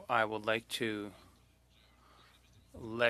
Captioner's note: speaking French